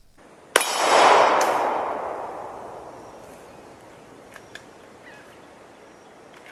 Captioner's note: gunshots